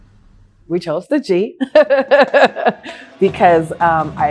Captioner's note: laughs